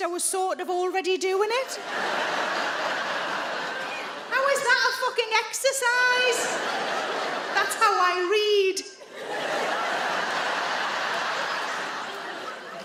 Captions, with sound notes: I was sort of already doing it. (audience laughing) How is that a fucking exercise? (audience laughing) That's how I read. (adience laughing)